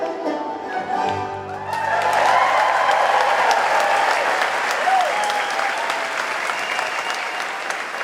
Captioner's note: banjo music; audience cheering